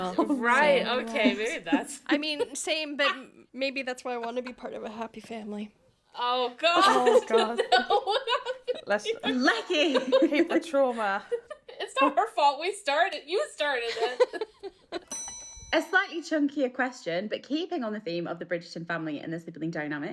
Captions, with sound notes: - Right, okay, maybe that's-- - I mean, same, but maybe that's why I wanna be part of a happy family. - Oh, God. (laughing) - Let's-- - Lechi! - Keep the trauma. - It's not her fault, we started it. You started it. (laughing) - A slightly chunkier question, but keeping on the theme of the Bridgerton family and the sibling dynamics,